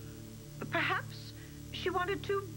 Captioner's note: none